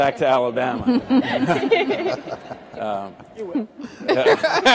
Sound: all laugh

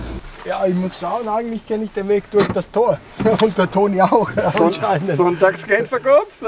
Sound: speaking Dutch

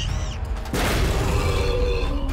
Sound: growls

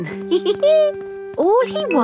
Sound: giggles

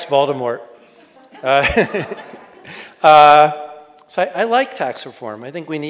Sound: audience laughs

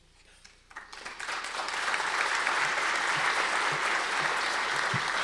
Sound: audience applause

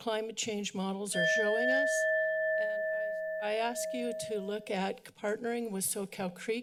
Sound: bell sound

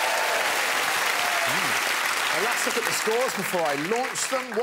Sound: audience cheering

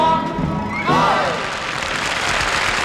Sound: group cheers; audience applauds

